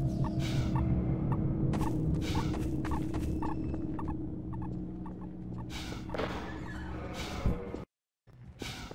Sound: sirens in the distance

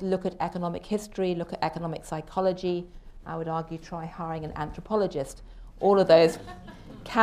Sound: laughter

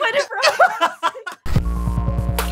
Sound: laughs

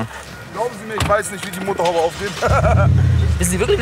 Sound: lacht

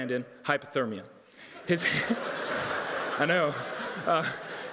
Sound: audience laughing

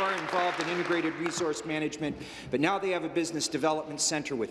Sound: applause

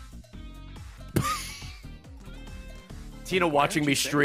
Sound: laughs

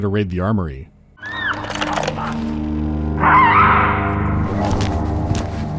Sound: excited baboon shrieking

